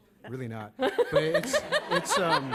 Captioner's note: laughter